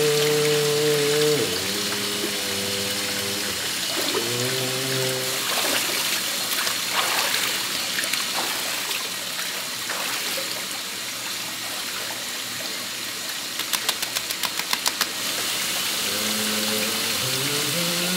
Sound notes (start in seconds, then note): 5.6 water splashing; 16.0 humming